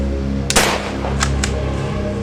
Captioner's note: gun Shot